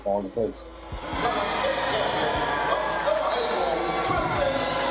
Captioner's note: crowd cheering